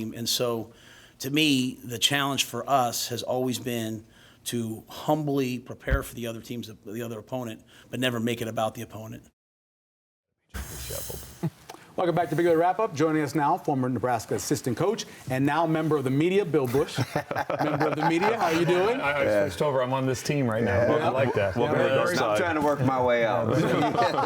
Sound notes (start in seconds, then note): 18.9 laughter